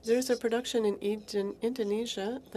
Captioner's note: speaking French